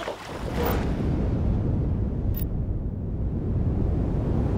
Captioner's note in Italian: vento che soffia